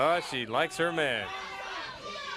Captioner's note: crowd chatter